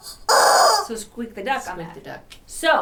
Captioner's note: chicken cawing